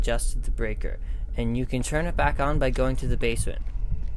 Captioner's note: background noise: Heart beating sound effect